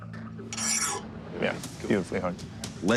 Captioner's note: metal scraping